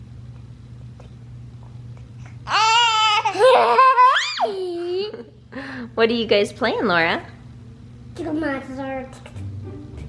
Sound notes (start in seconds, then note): 3.2 kids laughing